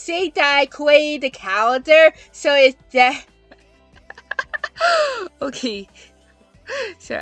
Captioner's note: laughing